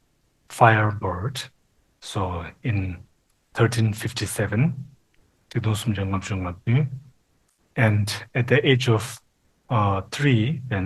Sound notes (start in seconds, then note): 3.3 speaking Tibetan